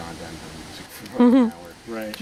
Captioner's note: chuckles